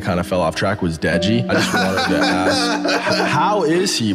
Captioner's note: KSI laughs